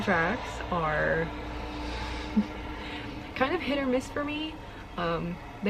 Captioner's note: car noises